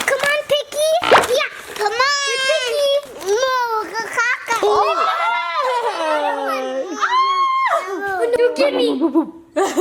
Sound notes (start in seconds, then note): 4.6 laughing